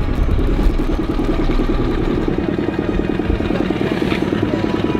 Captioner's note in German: Bootsmotor rattert